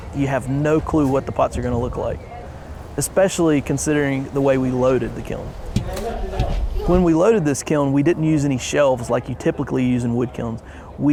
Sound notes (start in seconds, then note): 5.6 pot thumps into kiln